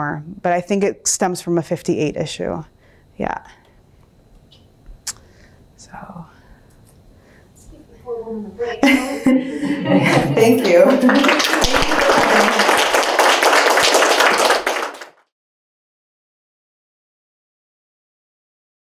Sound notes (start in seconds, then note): 8.8 laughter; 10.4 applause